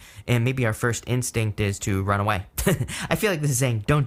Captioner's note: chuckles